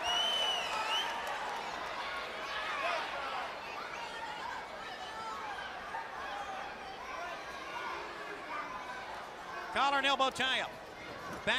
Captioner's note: crowd cheering